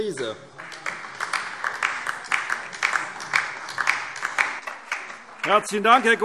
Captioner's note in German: Beifall DIE LINKE